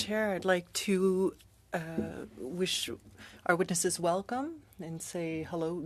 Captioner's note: speaking French